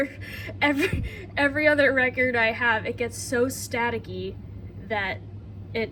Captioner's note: laughs